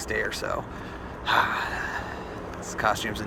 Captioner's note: sighs